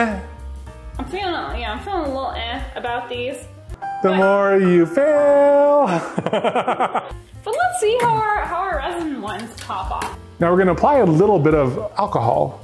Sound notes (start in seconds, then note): 5.6 both laugh; 5.7 piano plays